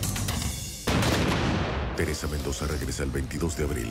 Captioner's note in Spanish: Disparo